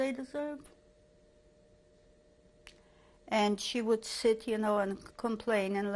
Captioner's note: pauses for 3 seconds